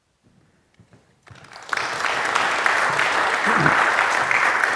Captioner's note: audience clapping